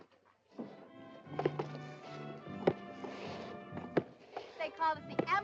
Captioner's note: soft music; footsteps thumping